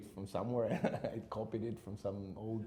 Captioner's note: chuckles